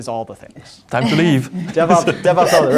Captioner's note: laughing